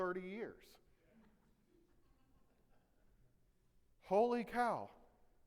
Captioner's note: audience laughing